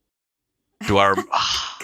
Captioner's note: sigh